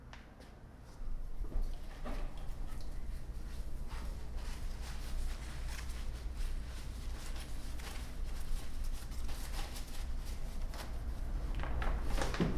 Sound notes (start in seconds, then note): 3.8 plastic rustling